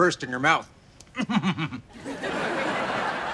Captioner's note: laughs